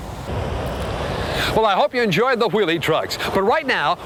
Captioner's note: voiceover